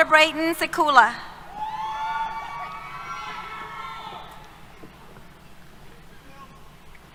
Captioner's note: cheers